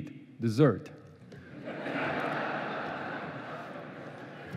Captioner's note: laughing